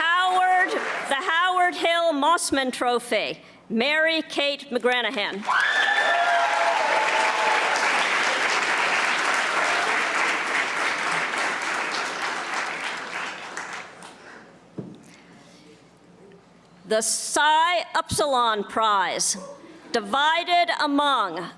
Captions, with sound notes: Howard, the Howard Hill Mossman Trophy, Mary Kate McGranahan, (audience applauding) The Psi Upsilon Prize, divided among Carley Daly,